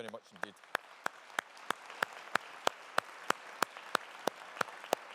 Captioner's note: audience applauding